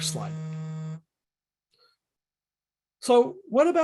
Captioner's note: phone vibrating